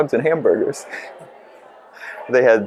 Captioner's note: laughs